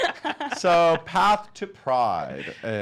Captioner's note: laughing